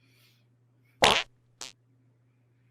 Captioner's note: fart splats